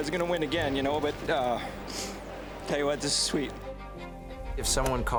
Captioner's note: sniffles